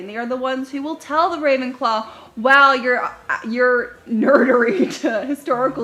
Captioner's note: chuckles